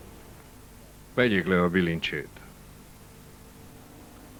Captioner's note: man speaks Spanish